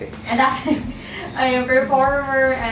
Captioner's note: laughs